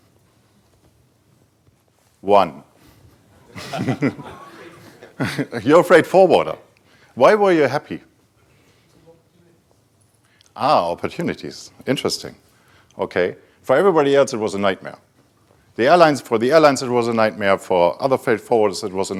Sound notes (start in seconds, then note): 3.4 laughs